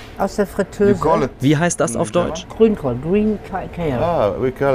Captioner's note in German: englisch